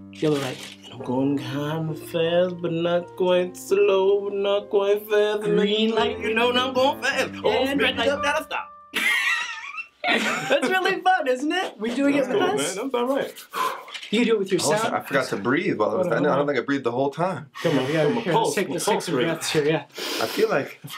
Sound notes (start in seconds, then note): 8.9 Mr. Root laughs; 14.5 Mr. Max exhales deeply; 19.9 Danny Joe inhales deeply; 20.0 Danny Joe exhales deeply